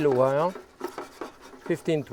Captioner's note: pan clattering